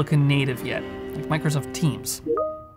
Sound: beep

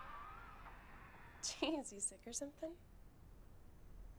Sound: chuckling

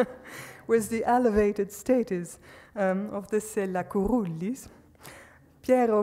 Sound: laughs; speaks foreign language

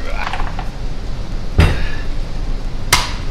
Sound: heaves; thud

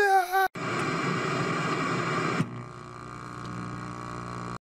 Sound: static and Feedback noise is heard

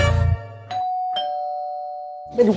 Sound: door Bell Ringing

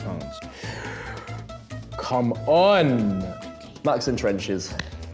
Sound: gasps

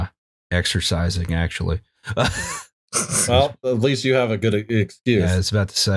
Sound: laughter

